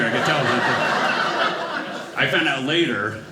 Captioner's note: audience laughing